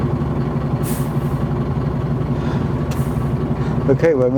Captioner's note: engine idling